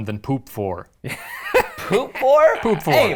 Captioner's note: laughing